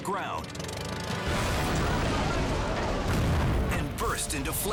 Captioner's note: plane crashes